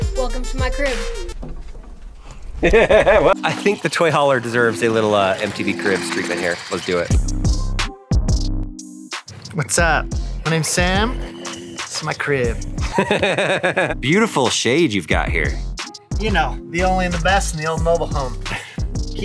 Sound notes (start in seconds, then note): 2.6 host laughing; 7.0 mellow beats music